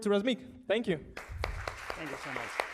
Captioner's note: audience applauding